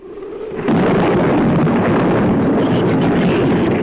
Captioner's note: thunder claps; shrews chatter